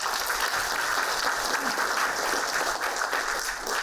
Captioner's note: applauding